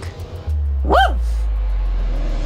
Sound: woof

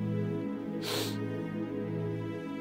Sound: sobs

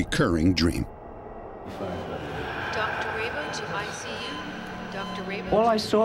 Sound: voice in dream

